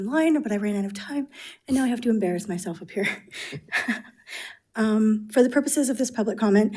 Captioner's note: chuckles